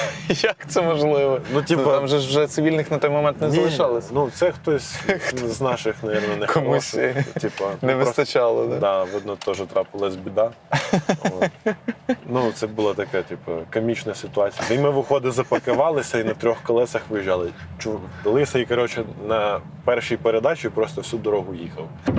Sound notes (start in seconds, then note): 10.7 laugh